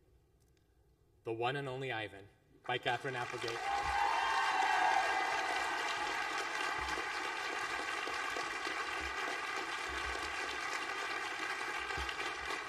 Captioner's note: applause